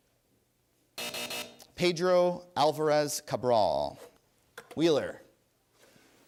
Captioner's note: buzzer